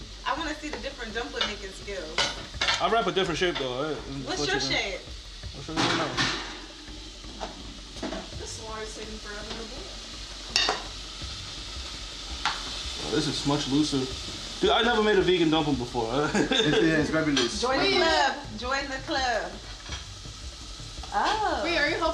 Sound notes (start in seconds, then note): 16.2 laughing